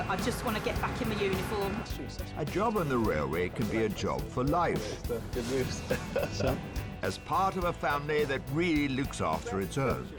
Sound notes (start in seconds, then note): 5.7 man laughing